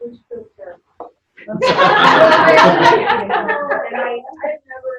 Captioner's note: laughter